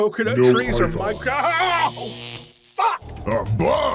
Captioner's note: electroshock